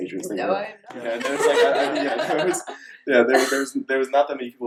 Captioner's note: laughing